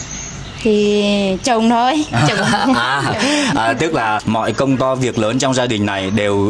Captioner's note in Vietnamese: tiếng cười